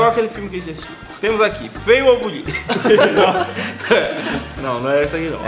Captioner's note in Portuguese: Risos